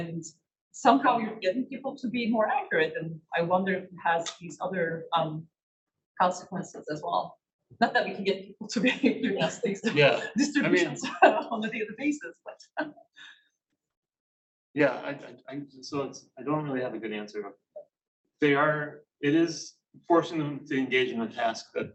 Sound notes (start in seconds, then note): 9.0 chuckles